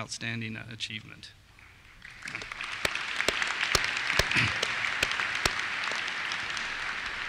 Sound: applause

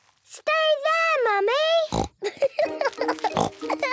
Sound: laughing

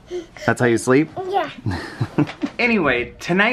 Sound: laughing

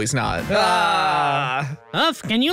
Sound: laughs

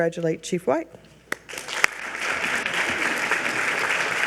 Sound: audience applauds

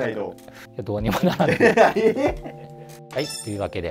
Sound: laughing

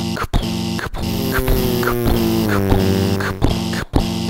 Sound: car buzzing

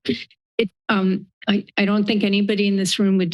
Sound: laughing

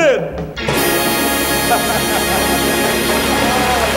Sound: laughing

